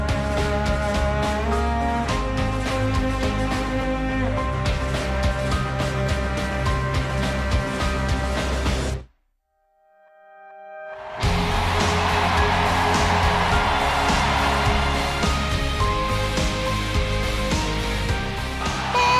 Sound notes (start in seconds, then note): 10.9 crowd cheers